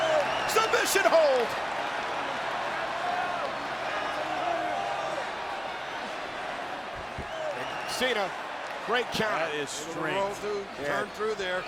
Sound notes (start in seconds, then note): 4.1 applause